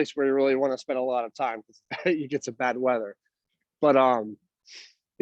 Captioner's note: laugh